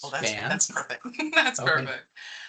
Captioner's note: chuckling